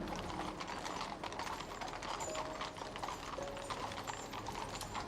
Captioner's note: horse hooves clatter